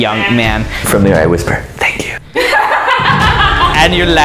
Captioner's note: laughter